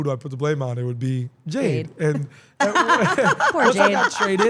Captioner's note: laugh